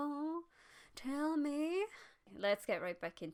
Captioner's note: weird voice